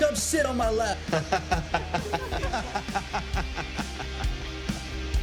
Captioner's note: all laughing; upbeat music